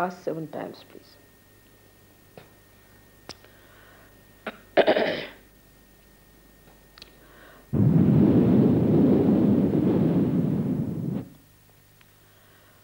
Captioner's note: Shri Mataji blows into the microphone